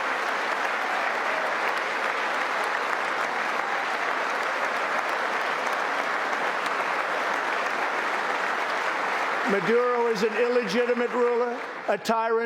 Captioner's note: applause